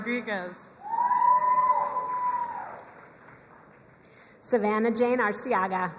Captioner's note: crowd cheering and applauding